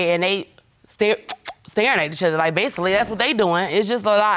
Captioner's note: smooching